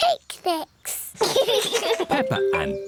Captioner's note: both laugh